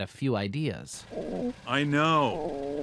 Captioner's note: car idling